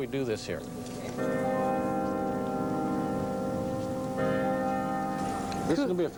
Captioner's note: bell tolling